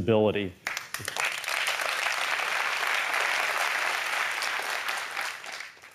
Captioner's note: applause